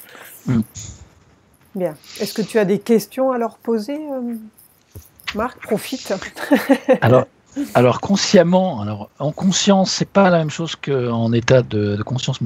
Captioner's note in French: rires